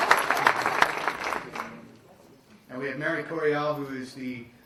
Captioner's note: applause